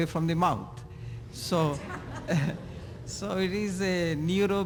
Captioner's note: laughter